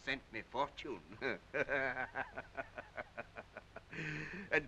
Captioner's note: laughing